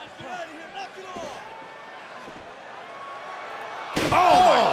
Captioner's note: crowd cheering